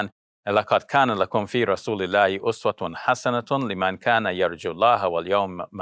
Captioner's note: speaking in foreign language